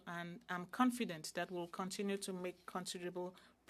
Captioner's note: speaking French